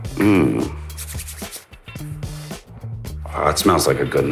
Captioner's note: hands rubbing